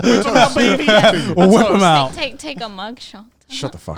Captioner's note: all laughing